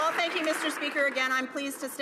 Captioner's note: some Applause